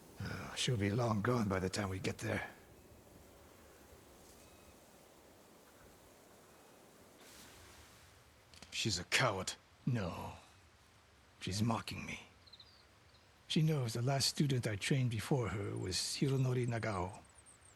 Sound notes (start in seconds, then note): none